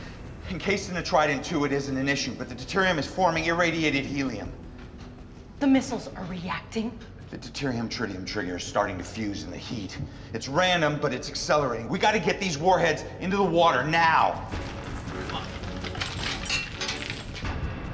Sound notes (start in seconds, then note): none